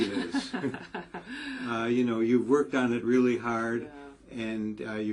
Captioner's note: laugh